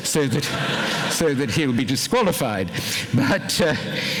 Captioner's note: laughter